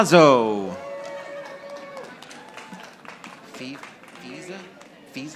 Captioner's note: audience applauding